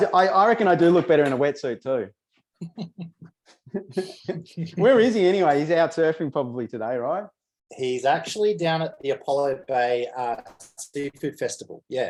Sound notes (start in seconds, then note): 3.7 chuckles